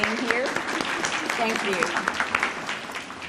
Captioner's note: audience applauding